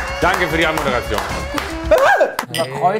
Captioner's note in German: Er schreit